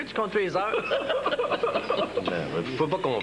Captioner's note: Rires